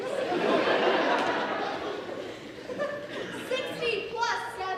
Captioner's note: audience laughs